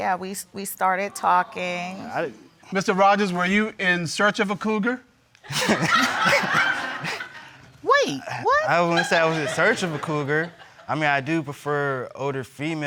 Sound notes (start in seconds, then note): 5.4 crowd laughing